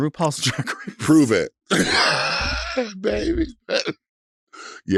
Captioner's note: chuckles